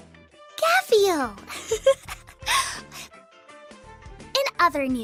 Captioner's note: giggle